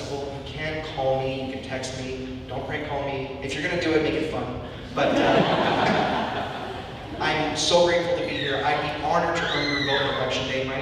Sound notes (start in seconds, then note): 4.9 audience laughing